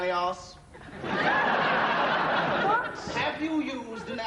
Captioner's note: laughter